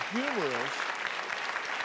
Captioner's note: applause